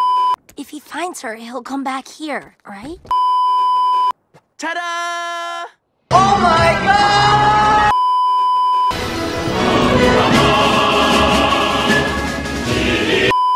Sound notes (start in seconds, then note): 3.2 beeeeeep; 7.8 beeeeeep; 13.3 beeeeeep